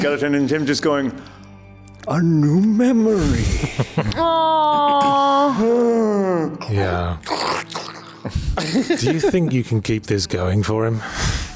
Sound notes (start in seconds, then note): 7.2 slurping